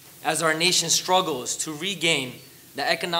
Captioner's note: none